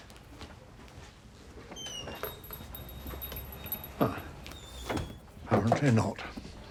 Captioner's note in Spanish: la puerta cruje, se cierra